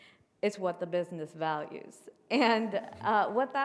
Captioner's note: chuckles